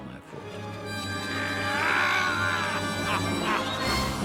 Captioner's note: chuckling; shouts